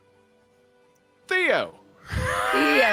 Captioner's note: wheezes